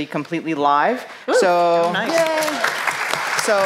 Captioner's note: applause